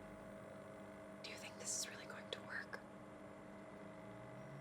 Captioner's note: whispering